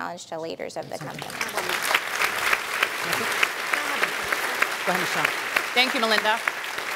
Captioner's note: applause